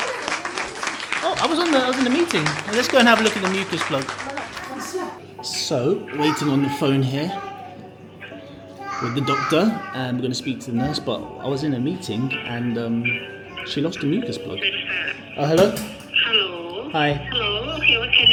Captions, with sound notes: So basically, she's lost her mucus plug. Where do you need it? (audience applauds) Oh, I was in the meeting. Let's go and have a look at the mucus plug. So, waiting on the phone here with the doctor and we're gonna speak to the nurse, but I was in a meeting and she lost her mucus plug.